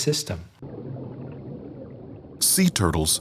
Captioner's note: water burbling